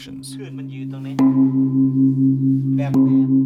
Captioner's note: gong sounds